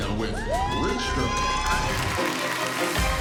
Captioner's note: cheers and applause